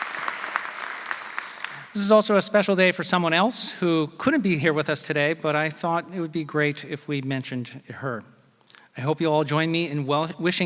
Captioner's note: applause